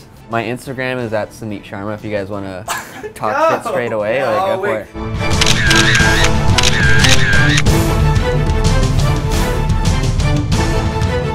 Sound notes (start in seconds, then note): 5.3 cameras clicking; 8.0 suspenseful music